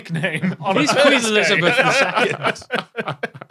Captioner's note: laugh